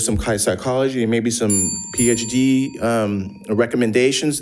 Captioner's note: bell dinging